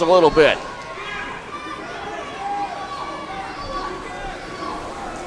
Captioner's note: crowd cheers